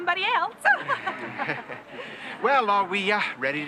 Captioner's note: laughing